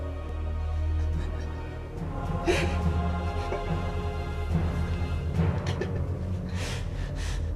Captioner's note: crying